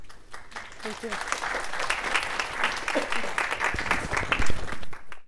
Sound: audience clapping

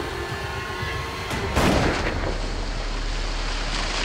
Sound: shooting

